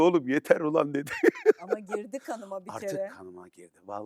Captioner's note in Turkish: kahkaha